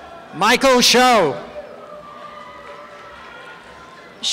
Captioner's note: applause and cheering